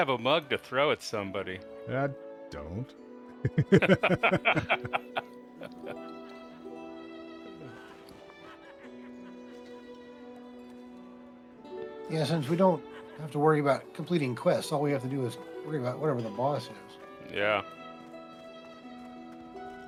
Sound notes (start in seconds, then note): 3.4 laughter